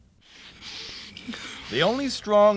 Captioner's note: both breathing heavily